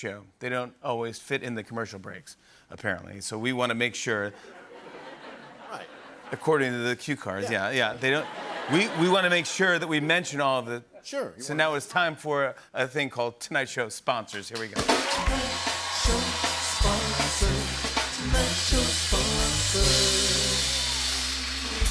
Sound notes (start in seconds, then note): 4.3 light laughter; 7.4 laughter; 14.3 cheers and applause